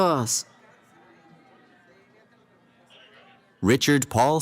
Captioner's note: cheering